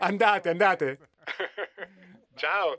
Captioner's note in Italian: Risata